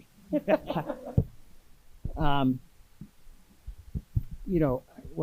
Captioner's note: audience and panelists laughing